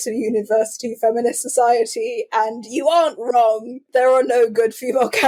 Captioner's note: laughing